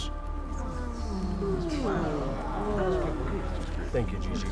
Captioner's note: crowd moaning